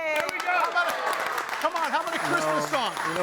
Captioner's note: crowd applauding